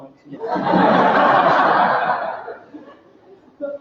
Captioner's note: laughter